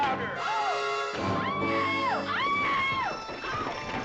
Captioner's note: screams